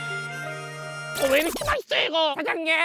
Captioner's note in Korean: 감탄